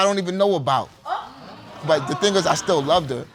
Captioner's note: audience exclaiming